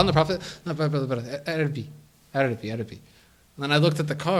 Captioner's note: in Arabic